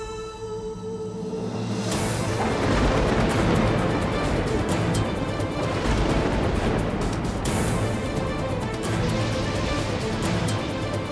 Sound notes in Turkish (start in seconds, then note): 2.1 Gök gürültüsü efekti; 4.4 Gerilim müziği